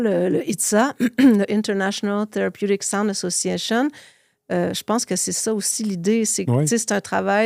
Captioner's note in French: raclement de gorge